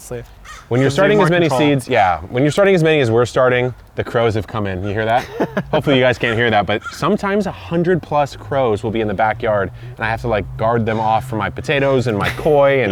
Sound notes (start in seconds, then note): 3.0 many crows cawing; 4.7 laughs